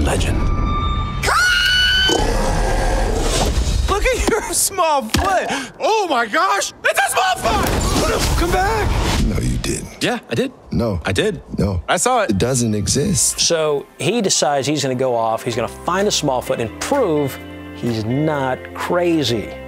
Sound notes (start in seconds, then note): 8.7 woosh